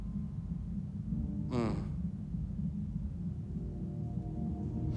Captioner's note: Carl groans